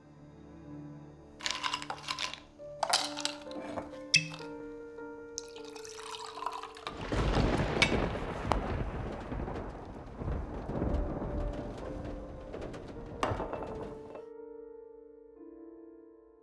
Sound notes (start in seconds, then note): 1.4 ice cubes rattling; 6.9 thunder crashing